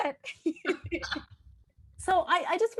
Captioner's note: all laughing